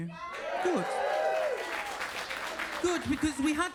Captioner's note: audience cheers and claps